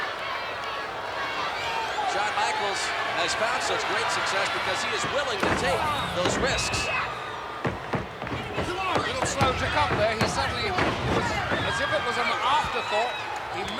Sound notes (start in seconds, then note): 6.0 blows thudding; 6.0 body thudding; 8.1 footsteps plodding; 9.1 hands thudding; 10.4 body thudding